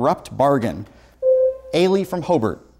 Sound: buzzer sounds

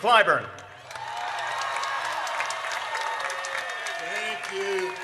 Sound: audience cheers

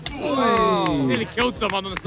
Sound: players groan

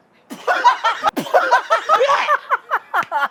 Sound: laughter

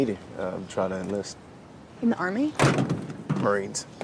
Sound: thudding

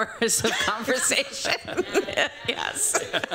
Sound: laughter

